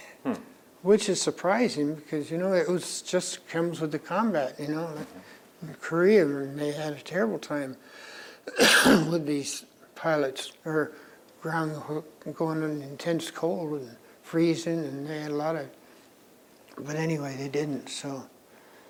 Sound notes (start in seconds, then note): 8.4 coughs